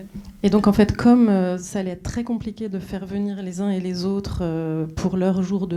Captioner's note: speaking French